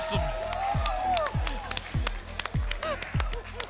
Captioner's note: applause and cheering